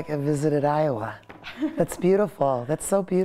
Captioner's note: laughter